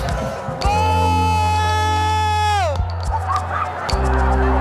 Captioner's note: protestors yelling